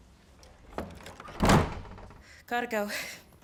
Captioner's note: door clattering